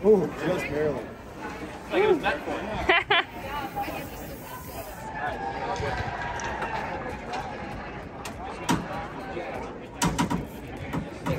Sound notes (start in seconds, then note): 2.8 laughs